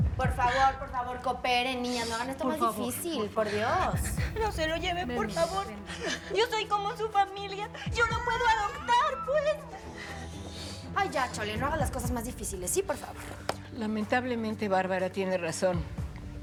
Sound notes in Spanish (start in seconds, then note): 0.3 Sollozos de Chole y Leticia; 7.5 Sollozos